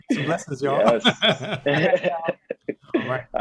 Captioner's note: laughing